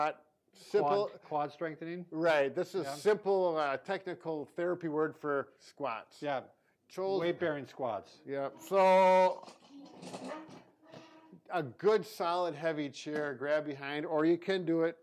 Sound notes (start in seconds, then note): 9.3 chair clanking